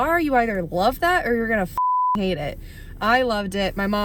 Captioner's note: beep